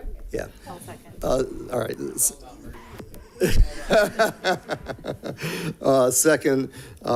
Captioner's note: laughs